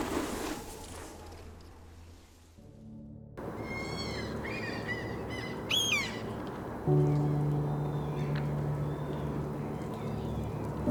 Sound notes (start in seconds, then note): 3.5 birds squawking; 7.2 calm music